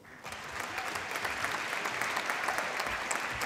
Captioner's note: applause